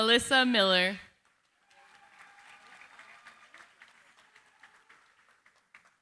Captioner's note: applause